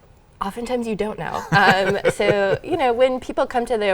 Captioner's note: laughing